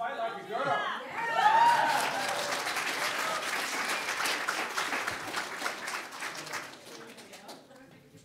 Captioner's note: audience claps and cheers